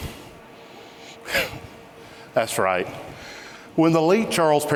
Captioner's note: chuckles